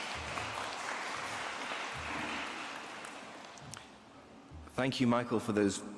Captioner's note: applause